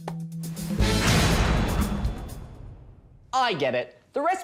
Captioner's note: door slams